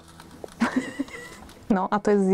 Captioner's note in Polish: śmiech